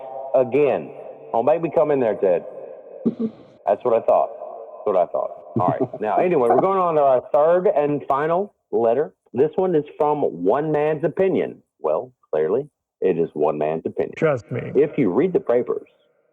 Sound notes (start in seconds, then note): 5.6 giggles